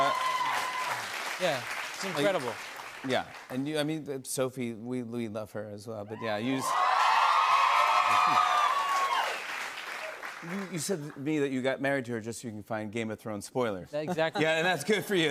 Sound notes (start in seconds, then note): 6.2 cheers and applause